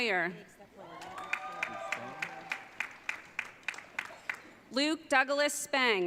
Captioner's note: audience cheering